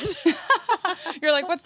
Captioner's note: laughing